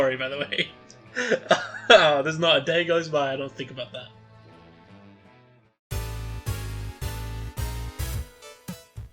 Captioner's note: laughter